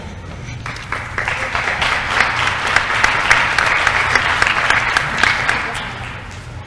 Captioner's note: applause